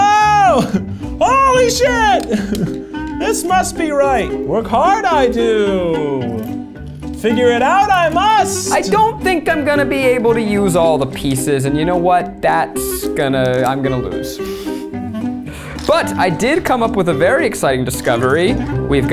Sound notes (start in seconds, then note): 15.1 laughs